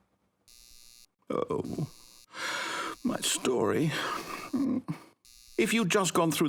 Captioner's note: sigh